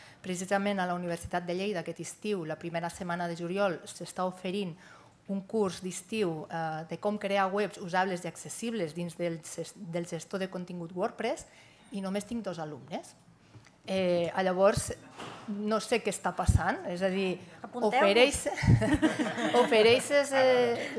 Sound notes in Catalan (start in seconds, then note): 18.6 riures